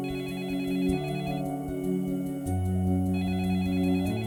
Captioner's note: telephone ringing